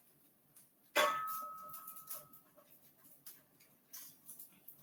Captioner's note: metal dings